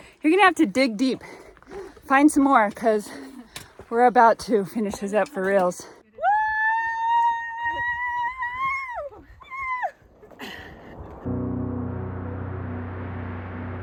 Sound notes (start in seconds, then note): 6.2 cheers